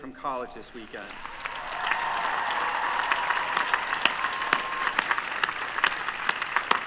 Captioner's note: applause